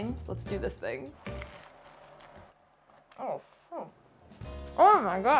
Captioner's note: lobster roll crunching